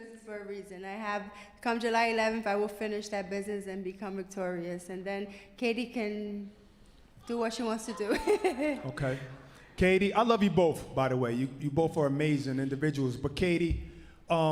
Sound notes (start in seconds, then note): 10.7 laughs